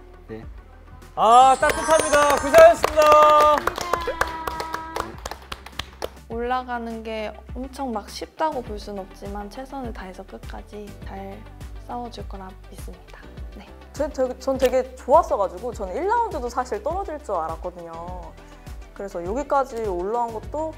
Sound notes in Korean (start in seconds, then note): 4.2 일동 박수